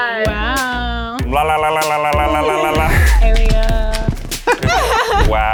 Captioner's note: babbles; group laughs